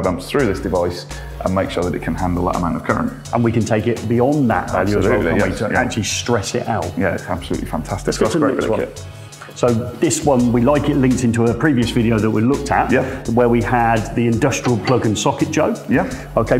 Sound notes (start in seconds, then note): 4.4 mumbles